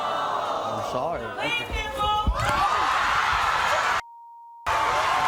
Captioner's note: audience gasping; audience shouting